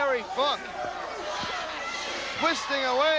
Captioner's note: crowd cheering